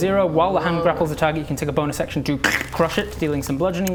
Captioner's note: crkkch